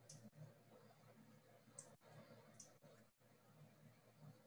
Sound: mouse clicking

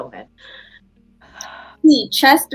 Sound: breathing

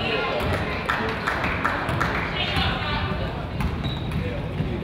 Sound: crowd applauds

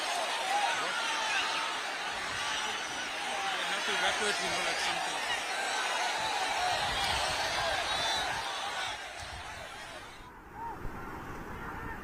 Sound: applause

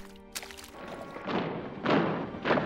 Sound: heavy footsteps approaching

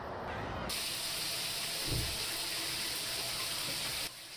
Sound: water spraying

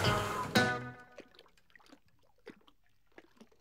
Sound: blowing at sail

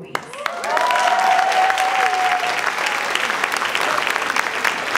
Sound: audience cheering and clapping

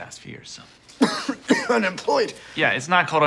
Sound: coughing

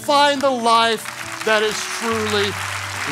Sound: congregation clapping

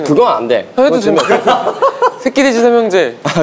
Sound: laughing

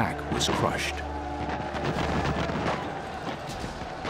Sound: war sounds

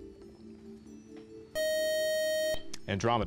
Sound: time-out buzzer

